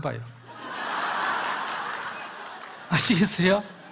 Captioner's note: audience Laughter